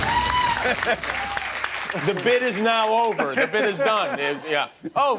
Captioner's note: applause; laughter